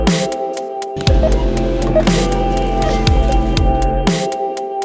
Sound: register beeping

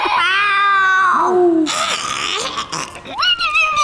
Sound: screaming; playful noises

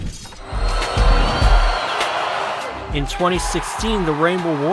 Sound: cheering

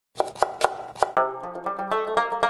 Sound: chopping sound

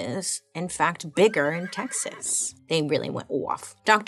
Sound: horse neighing

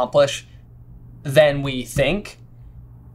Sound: taps

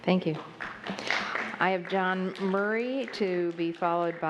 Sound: applause

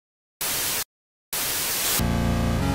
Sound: Static

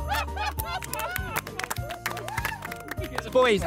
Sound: Blue Team clapping

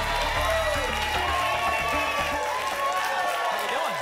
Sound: applause and cheering cont

